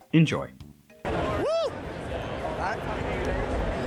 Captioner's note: random person says 'woo'